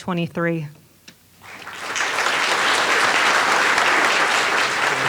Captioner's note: applause